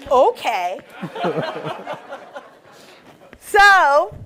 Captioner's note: laughter